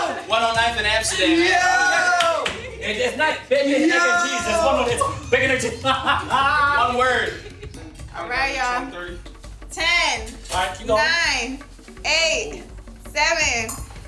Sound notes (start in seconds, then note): 2.5 group chattering; 7.4 laughing